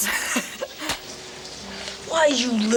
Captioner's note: Ned chuckles; hand slaps